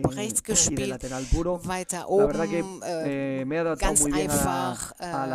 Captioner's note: coughs